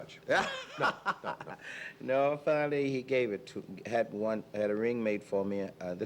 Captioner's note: laughing together